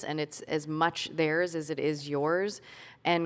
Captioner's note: none